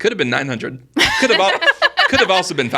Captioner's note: laughing